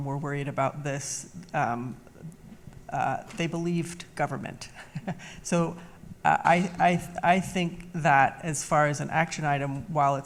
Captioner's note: laughs